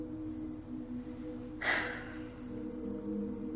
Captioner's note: sighing